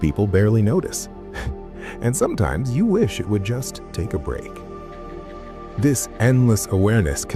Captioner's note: chuckle